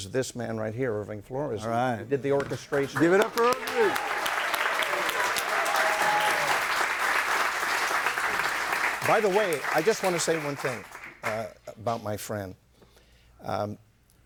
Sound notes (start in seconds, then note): 5.8 audience applauding